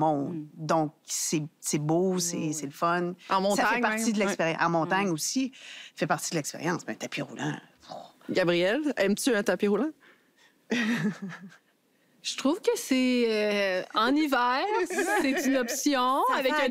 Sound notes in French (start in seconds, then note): 10.7 petit rire